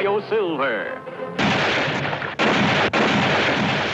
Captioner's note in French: coups de feu